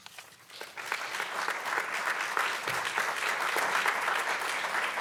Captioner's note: audience clapping